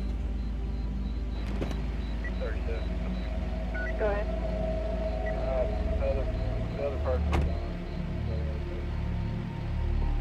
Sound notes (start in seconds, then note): 1.2 faint police radio chattering; 7.2 ominous music